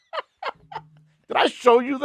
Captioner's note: both laughing